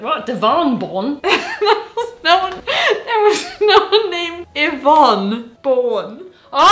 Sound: laughs

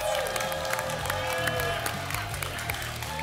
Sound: applause and cheering

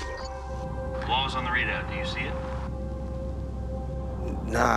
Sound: radio

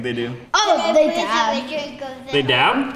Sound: kids talking

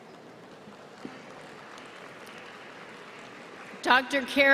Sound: applause

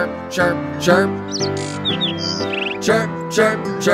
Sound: bird chirping

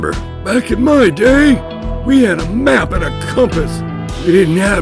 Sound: gruff old man voice

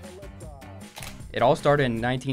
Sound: camera Shutter

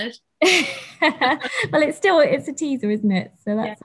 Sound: laughs

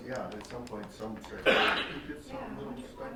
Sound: coughing

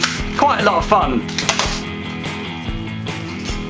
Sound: Nerf Accustrike Slug Dart Shotgun firing

